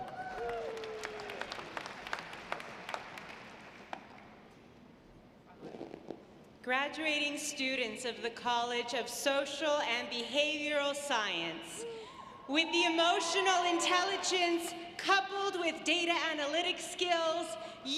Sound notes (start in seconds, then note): 0.0 audience applauds